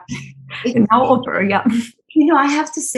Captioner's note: Shirin chuckles; chuckles